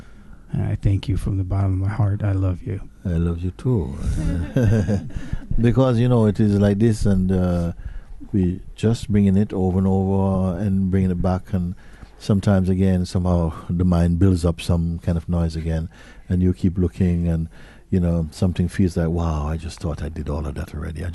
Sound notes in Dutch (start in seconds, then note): 4.0 gelach